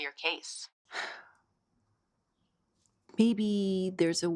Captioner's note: Hope sighing